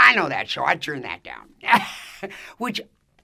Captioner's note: laughs